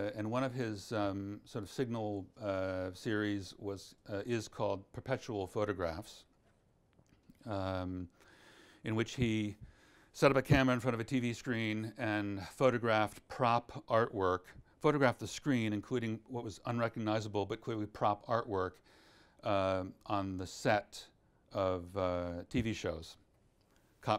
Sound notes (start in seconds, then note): none